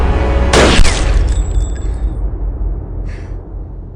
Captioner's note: gun firing